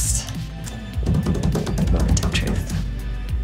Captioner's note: drumming on table